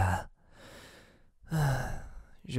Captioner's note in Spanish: Suspira en francés